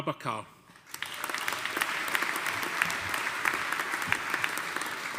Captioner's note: audience applauding